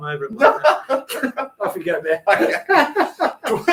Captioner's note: laughing